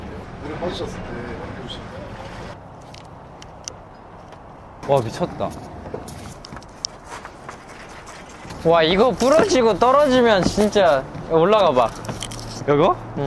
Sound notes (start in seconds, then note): 5.6 stomping